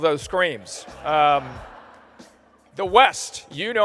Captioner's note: laughter